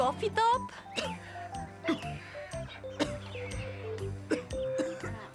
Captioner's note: mother coughing